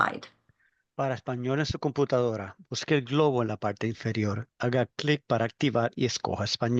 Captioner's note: man speaking in foreign language